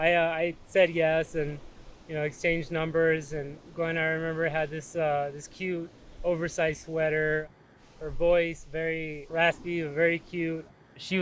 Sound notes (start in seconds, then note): none